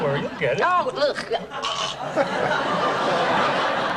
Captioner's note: Deborah gags